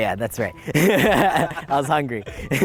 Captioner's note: laughs